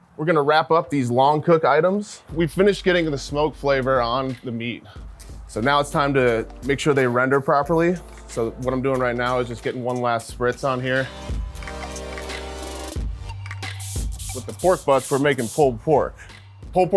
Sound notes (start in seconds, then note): 11.4 spirited upbeat music; 13.6 spray bottle hissing